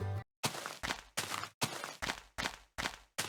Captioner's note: Minecraft Alpha footsteps